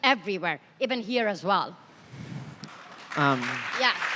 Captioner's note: applause